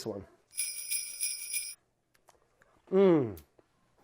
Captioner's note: sleigh bells